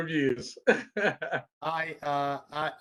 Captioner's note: laughter